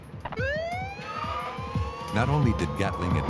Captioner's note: sirens